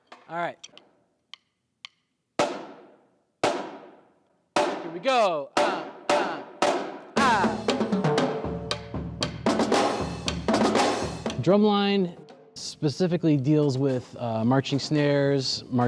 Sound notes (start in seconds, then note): 1.2 drumstick tapping; 7.5 drums beating